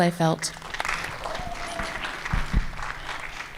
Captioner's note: applause